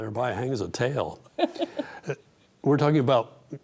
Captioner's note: laughing